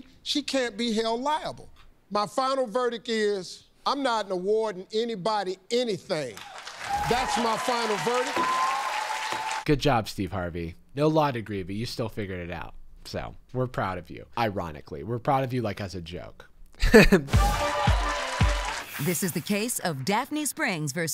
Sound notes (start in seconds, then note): 6.3 audience clapping; 16.8 laughs